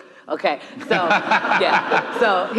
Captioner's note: audience laughing